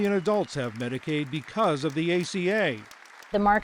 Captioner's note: applause